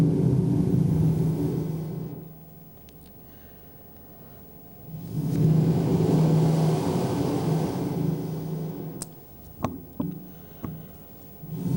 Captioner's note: Shri Mataji blows into the microphone seven times